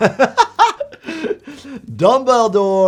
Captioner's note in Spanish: riendo